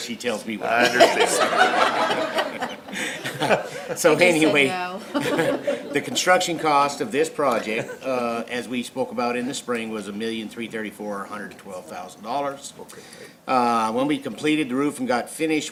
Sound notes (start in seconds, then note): 0.7 laughter; 4.2 laughing